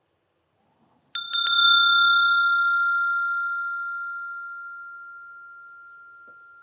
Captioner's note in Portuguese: som de sino